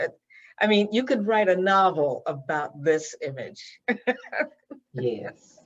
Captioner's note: laughs